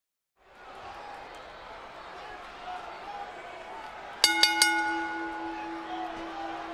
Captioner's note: applause